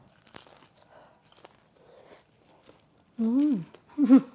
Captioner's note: mandu crunching